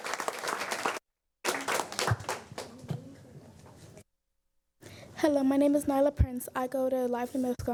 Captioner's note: applause